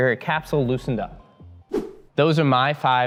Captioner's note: air whooshing